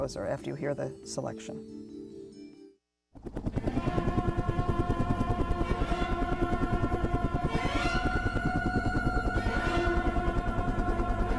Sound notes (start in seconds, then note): 3.1 chopper blades whirring; 6.1 stirring orchestral music